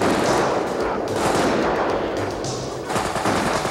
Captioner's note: guns firing